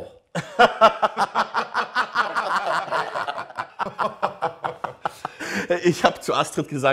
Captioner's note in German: lachen